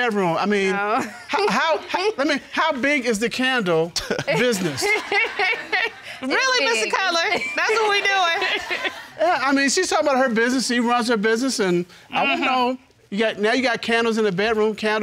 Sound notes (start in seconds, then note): 4.0 laughing